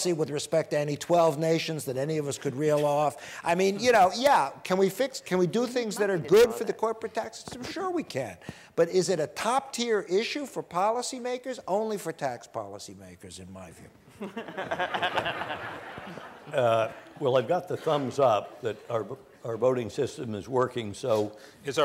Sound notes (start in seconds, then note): 14.3 panel laughs